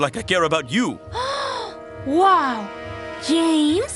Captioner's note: gasps